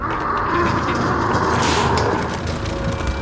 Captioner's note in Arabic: زئير